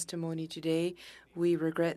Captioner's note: speaking French